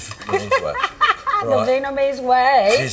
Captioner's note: laughs